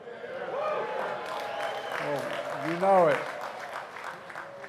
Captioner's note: applause